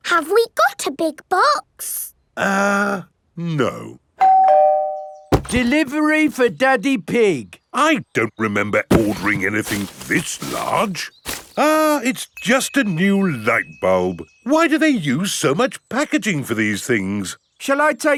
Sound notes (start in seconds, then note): 4.2 doorbell rings